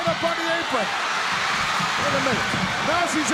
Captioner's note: crowd cheers